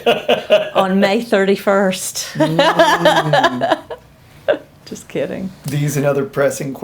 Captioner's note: laughs; laughs